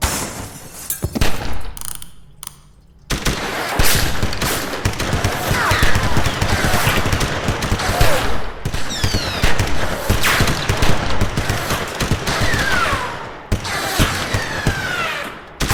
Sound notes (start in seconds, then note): 0.1 mirror shatters; 1.1 gun fires; 3.3 gun fires rapidly